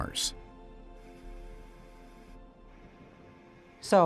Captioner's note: rover whirrs